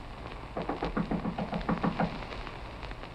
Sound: knocking

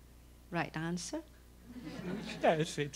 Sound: laughter

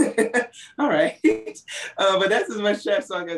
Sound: laughs

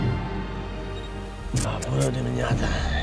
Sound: camera clicks

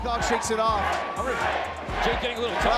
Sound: crowd chanting

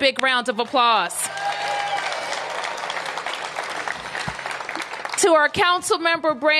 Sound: applause

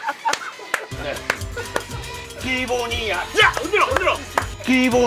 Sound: excited

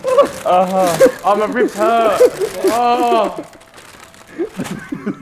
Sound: laughs; groans

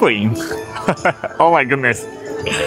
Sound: laughs

